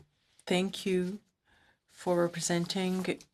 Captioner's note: speaking in French